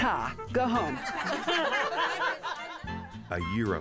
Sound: ladies laughing

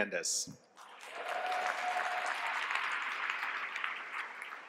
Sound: applause

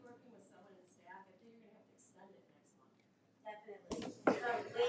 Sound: woman chattering

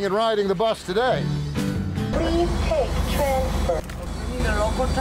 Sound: machine Voice

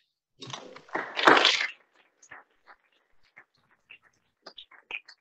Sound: audience applauding

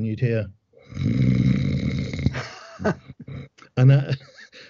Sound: snores

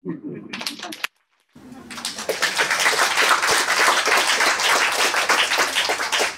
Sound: applause

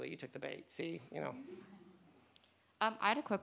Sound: audience laughs

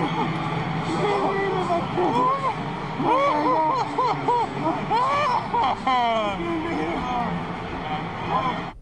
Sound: laughter

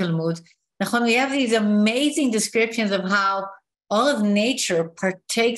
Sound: non-english speech

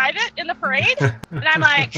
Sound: chuckling

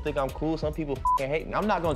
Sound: beep

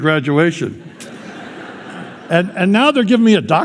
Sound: laughter

